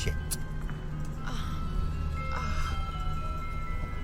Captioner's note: moans